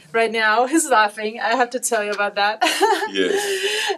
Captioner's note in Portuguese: risos; ele está rindo agora